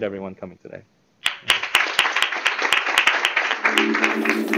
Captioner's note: applause